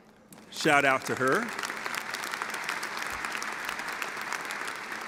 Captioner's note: audience applause